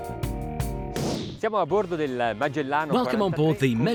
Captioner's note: speaking foreign language